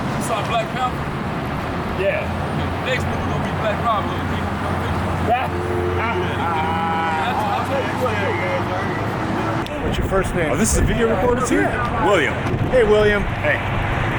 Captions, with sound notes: - You saw Black Panther? (mumbles and laughs) - What's your first name? - Is this a video recording? William. - Hey, William.